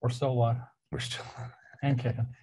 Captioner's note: laughs